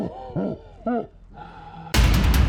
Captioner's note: laughter